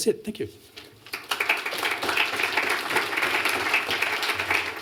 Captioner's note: applause